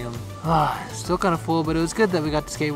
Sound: sigh

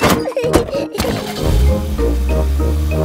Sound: laughing; car engine starts

